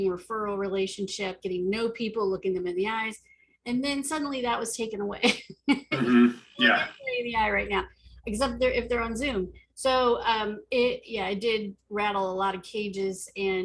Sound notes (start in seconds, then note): 5.7 laughs; 6.6 chattering